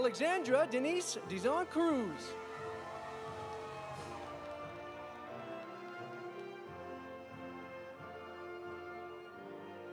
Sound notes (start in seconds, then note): 2.3 audience cheering; 2.3 audience applauding